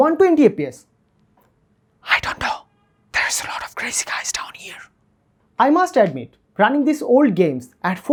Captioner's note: whisper